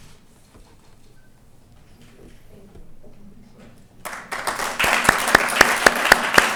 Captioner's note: applause